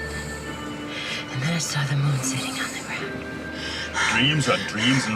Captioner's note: she pants